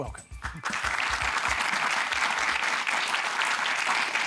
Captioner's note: applause